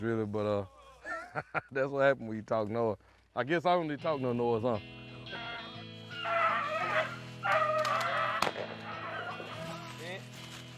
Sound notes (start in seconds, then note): 6.1 dogs howling